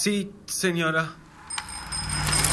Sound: passing vehicle; bicycle bell ringing

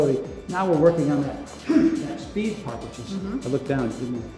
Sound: grunts

